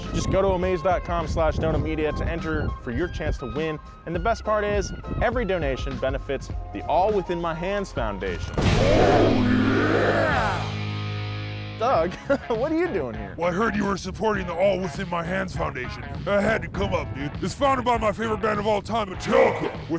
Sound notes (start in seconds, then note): 8.6 loud explosion sound effect